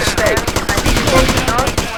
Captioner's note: gunshots